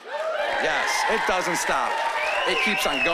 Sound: cheering and applause

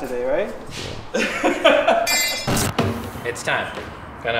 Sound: man laughs

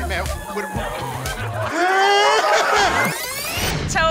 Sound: whimpers

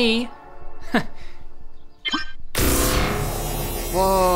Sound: machine whirring

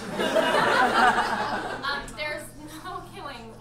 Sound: audience laughs

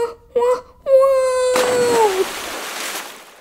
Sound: splash!

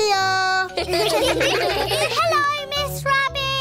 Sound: children giggle

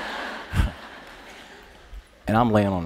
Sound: laughter

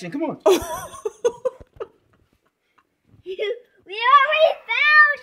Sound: laughing

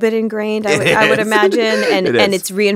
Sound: laughs

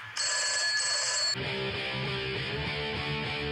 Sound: phone rings

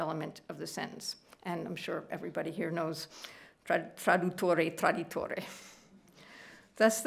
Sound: speaking italian

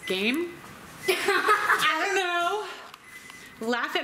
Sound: laughter

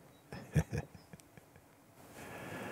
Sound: Mooji laughs

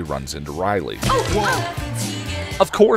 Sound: Buffy bumping into people noises

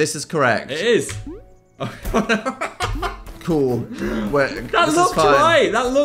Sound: laughs

